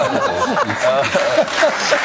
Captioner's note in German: Lachen, Applaus